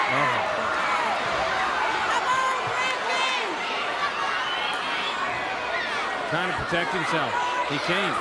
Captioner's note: crowd chatter